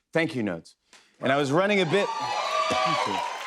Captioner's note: cheers and applause